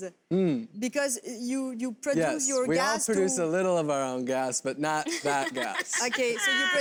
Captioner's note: laughter